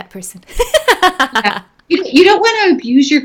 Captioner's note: laughing